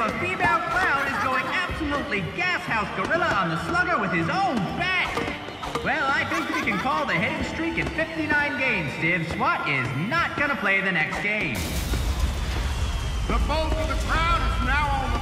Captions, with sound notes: A female clown is going absolutely Gashouse Gorilla on the slugger with his own bat! [thunking, giggling] Well, I think we can call the hitting streak at 59 games, Stiv. Swat is not gonna play the next game. [fireworks explode, whistle] - The bulk of the crowd is now on the field